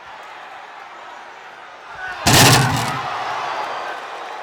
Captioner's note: footsteps plodding; body thudding; crowd clamoring